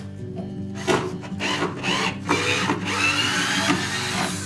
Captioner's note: sounds of drill